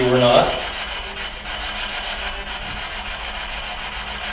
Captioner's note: static buzzing